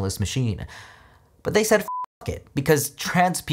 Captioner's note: beeps